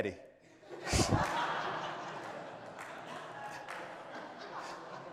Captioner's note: audience laughs